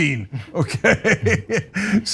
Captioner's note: laugh